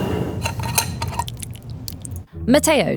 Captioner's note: jar sliding; lid opening; salsa pouring